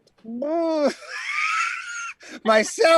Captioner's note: laughing